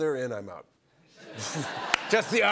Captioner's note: laughter